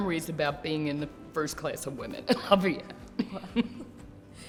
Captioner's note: laughs